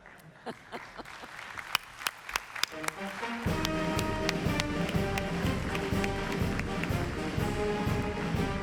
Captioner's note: laughter and applause